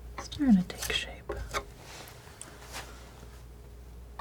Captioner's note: tapping